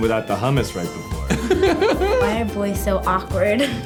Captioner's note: laughing